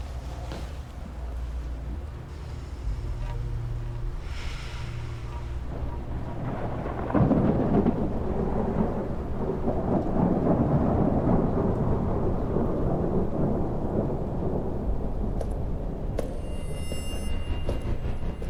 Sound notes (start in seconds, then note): 2.4 deep calm breath; 5.6 thunder intensifies